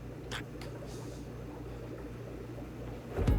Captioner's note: <i> stammering